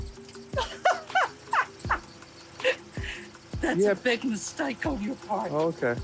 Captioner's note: laughs